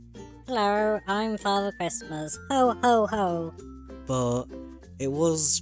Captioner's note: distorted silly voice